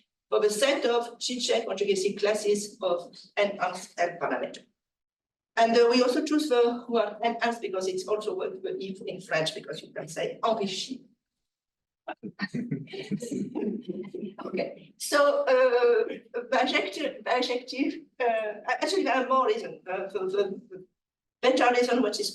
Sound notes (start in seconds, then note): 10.4 speaks French; 12.1 chuckling